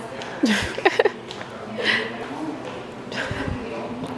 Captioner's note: laughs